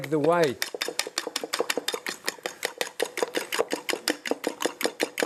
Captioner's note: fork continues clinking